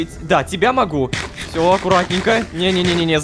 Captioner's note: crunch-crunch-crunch